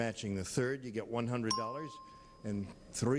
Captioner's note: bell rings